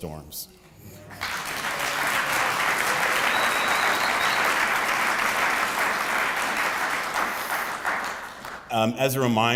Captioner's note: applause